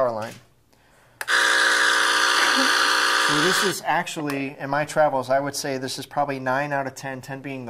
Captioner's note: loud buzzing